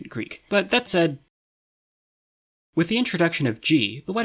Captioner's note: beat